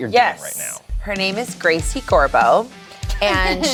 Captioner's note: group chuckles